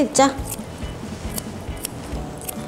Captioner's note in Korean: 가위질 소리